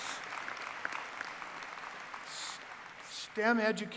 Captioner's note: cheering